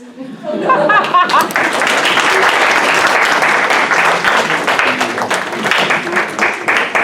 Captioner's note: applause